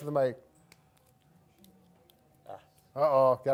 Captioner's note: knuckles cracking